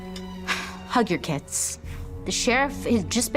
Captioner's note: sighing